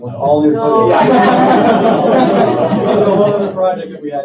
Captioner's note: laughter